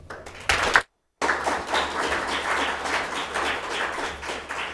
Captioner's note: audience applauding